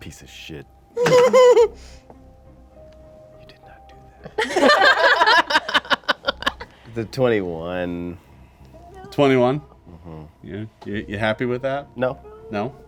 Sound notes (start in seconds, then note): 1.0 stifled laughing; 4.4 laughing